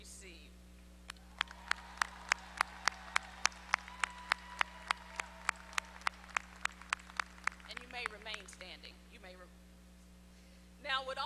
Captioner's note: applause